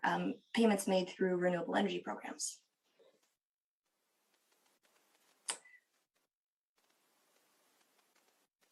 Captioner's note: silence